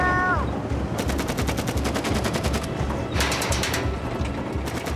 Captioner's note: artillery fire